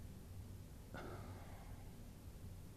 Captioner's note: sigh